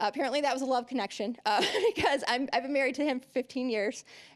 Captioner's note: laughing